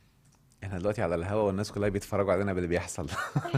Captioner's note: laughs!